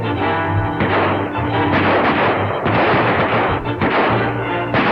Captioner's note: guns fire continuously